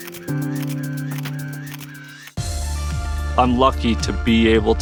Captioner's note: camera shutter clicking